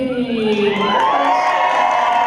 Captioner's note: cheering